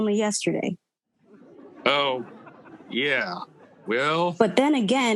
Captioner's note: audience laughing